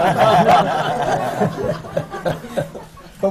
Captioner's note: laughter